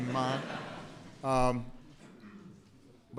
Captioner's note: laughter